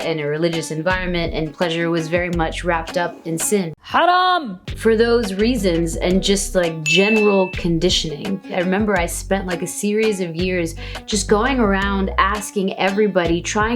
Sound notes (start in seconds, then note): 6.8 bell dings